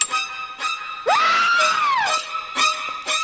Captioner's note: scream